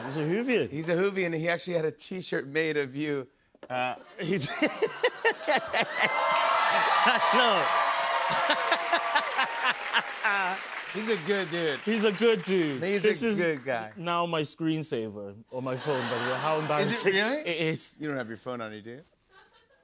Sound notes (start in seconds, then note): 4.2 laughs; 5.8 cheers and applause